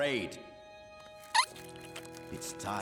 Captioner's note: squeaking